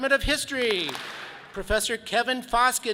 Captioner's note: audience claps